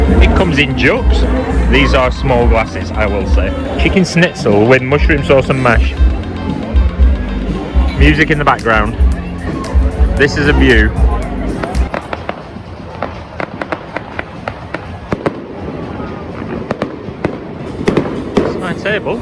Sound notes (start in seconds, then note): 12.4 fireworks bang